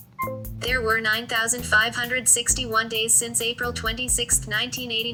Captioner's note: voiceover